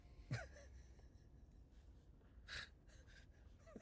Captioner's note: laughing